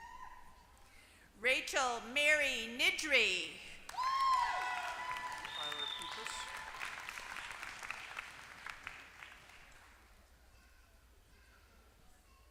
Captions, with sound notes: >> Rachel Mary Niddrie. >> [APPLAUSE]